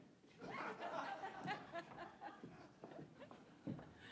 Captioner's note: audience laughs